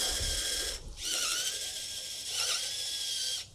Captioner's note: drill spins